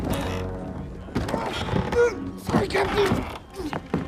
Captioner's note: groans